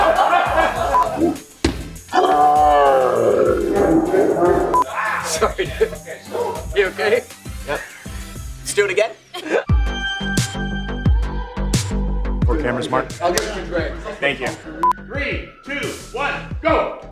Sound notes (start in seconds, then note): 0.0 laughing; 3.8 laughing